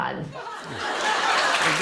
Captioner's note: laughter and applause